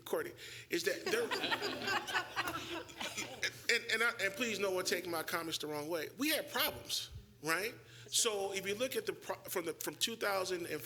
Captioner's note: laughter